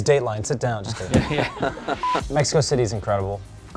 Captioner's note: laughing